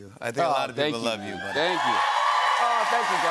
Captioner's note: cheers and applause